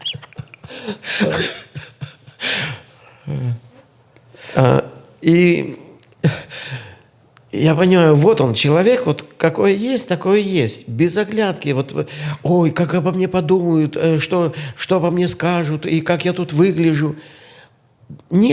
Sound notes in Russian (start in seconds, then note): 0.0 смех; 6.3 тяжело вздыхает